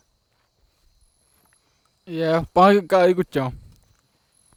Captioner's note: speaking in Tupi-mondé